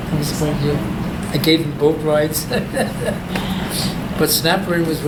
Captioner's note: laughs